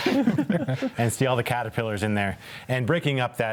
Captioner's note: chuckles